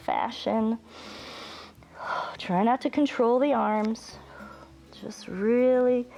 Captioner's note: inhales and exhales